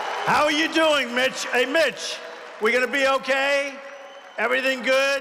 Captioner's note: applause